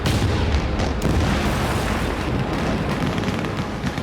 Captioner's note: explosions; gunfire